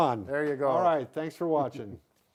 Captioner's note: laughing